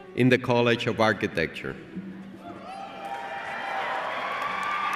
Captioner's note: cheers and applause